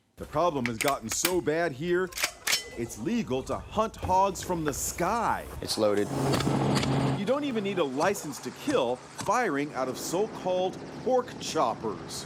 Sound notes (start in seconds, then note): 6.5 gunshots